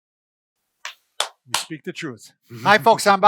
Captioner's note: clapping